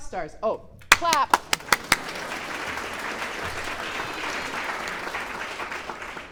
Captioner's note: clapping aggressively